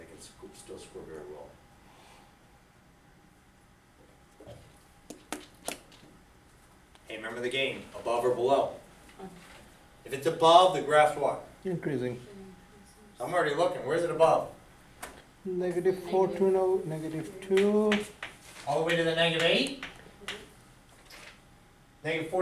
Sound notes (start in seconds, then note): 11.9 voiceover; 15.7 voiceover; 16.6 speaks softly